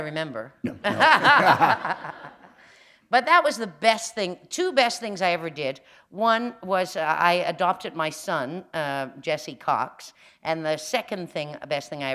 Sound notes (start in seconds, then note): 0.8 laughter